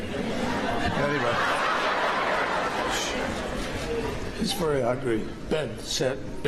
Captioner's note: laughter